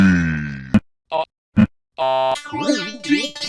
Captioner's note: Mailbox, pitched down; buzzes